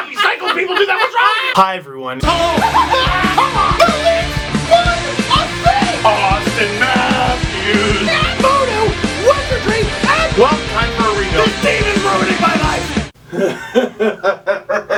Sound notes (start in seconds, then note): 0.0 laughter even louder; 2.2 theme music; 2.9 screaming; 8.1 scream; 13.3 laughter